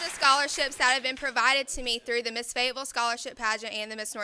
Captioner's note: applause